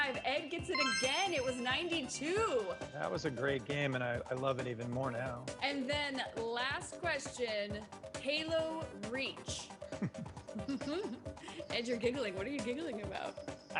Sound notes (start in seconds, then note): 10.0 giggles